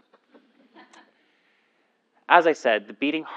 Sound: laugh

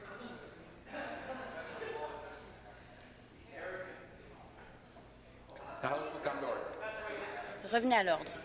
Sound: conversation din

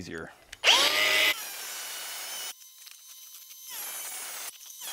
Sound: angle grinder cutting

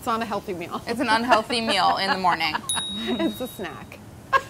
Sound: buzzer pinging

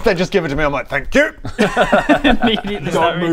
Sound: reading noises

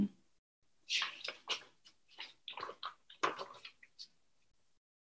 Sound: papers rustling

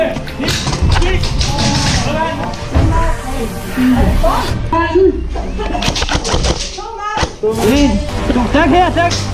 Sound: instinctively chatter

